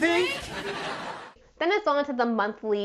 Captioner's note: audience laughing